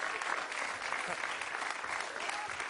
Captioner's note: applause